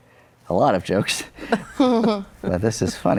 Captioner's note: chuckles